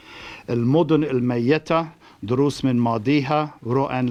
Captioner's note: non-english speech